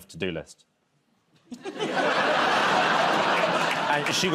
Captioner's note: laughter